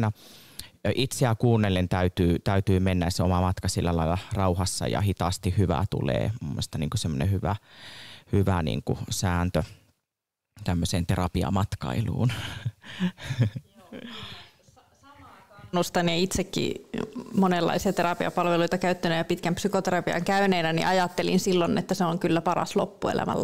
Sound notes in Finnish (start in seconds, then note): 12.8 Naurahtaa